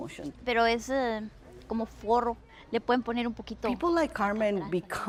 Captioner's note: speaking foreign language